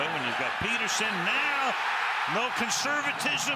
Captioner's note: cheering